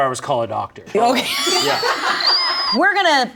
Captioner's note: all laugh